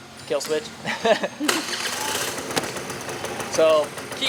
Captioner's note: scooter engine revs